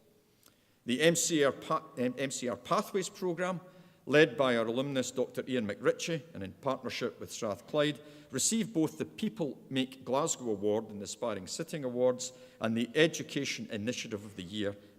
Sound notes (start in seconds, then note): none